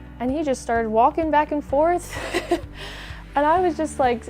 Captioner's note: laughs